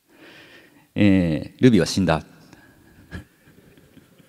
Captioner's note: chuckles